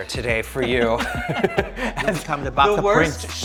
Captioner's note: both laughing